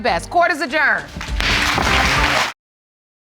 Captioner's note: gavel bangs